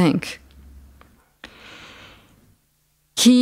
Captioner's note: pause